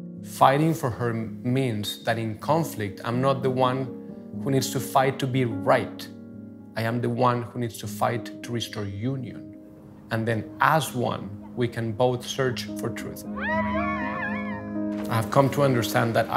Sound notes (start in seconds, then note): 13.3 Juanita screaming